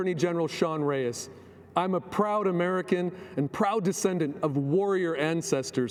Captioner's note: speaking foreign language